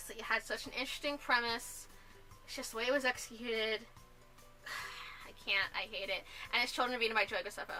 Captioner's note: sigh